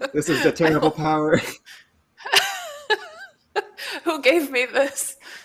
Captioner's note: laughter